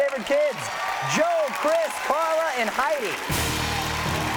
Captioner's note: audience applauding; bright orchestral music